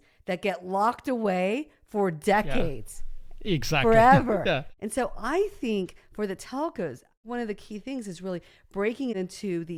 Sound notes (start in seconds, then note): 3.8 laughs